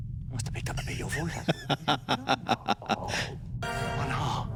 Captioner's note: laughing